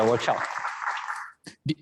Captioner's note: applause